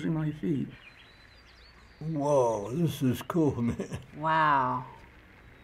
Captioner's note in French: dans le jeu: gazouillis des oiseaux